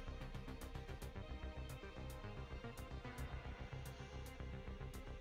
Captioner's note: none